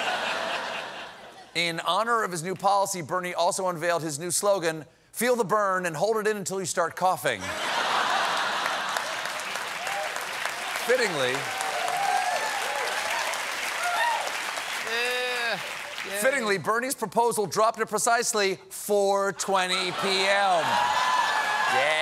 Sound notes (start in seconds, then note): 0.0 laughter; 7.4 laughter; 8.0 applause